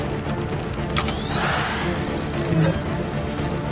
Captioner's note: system beeps; keyboard clacking stops